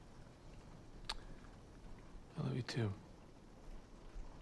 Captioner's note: clicks tongue